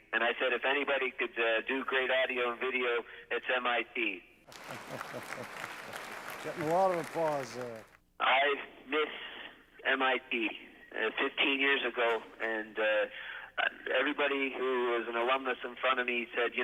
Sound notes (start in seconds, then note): 4.4 applause; 4.5 laughter